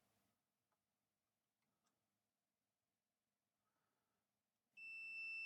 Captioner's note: silence